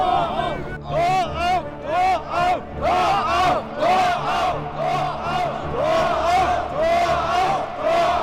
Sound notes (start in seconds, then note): 3.6 chanting repeatedly